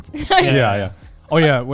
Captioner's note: laughs